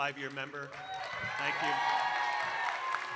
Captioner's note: audience cheering and applauding